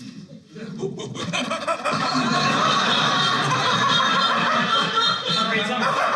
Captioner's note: monkey Noises